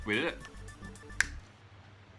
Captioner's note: finger snap